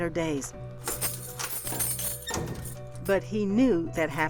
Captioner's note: keys jangling